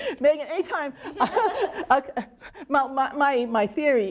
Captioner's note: both laughing